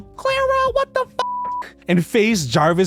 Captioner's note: beeps